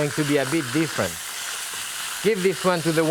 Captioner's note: meat sizzling